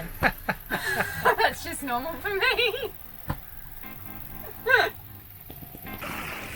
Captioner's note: laughing; laughing; water splashing; upbeat music